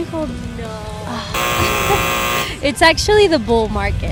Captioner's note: buzzer beeps